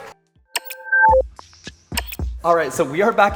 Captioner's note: beeping